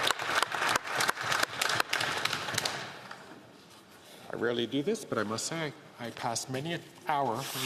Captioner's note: applause